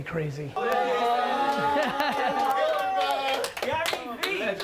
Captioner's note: cheering